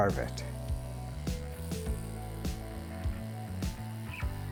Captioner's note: chisel buzzing